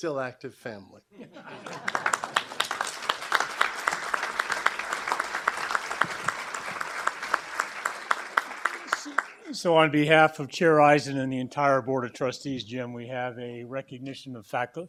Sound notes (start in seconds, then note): 5.1 applause